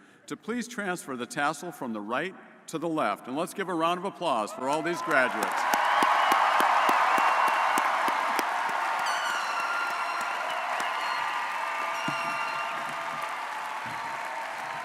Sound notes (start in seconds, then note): 4.6 audience cheering and applauding